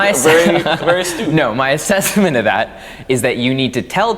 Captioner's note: laughs